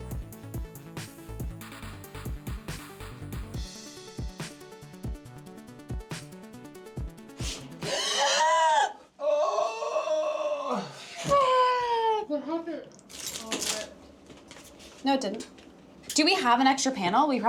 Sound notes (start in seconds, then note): 0.0 bright upbeat music; 9.2 screaming